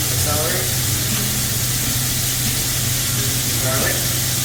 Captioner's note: ingredients sizzling